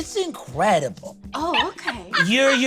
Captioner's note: laughs